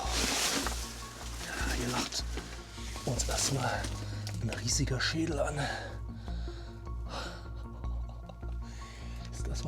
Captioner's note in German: seufzt